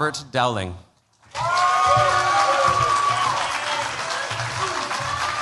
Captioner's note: cheers, applause